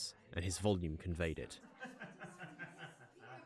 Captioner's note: oscar laughs